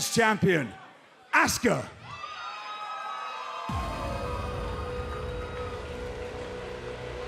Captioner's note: cheers & applause